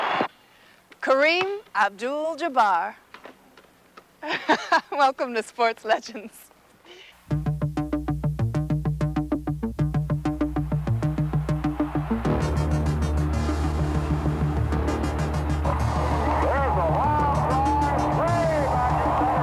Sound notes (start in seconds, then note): 4.2 laughs; 7.6 upbeat music